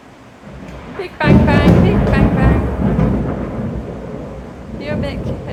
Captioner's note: extremely loud thunder